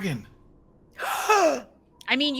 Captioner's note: Fairuza gasps